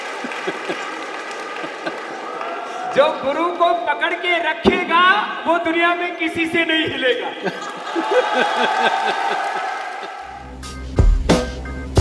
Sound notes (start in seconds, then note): 8.7 laughter/Applause